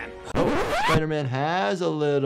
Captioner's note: record scratch